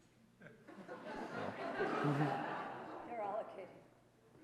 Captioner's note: audience laughing